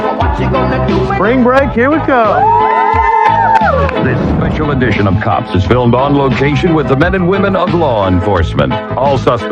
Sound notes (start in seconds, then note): 0.2 siningiging; 2.2 cheheerering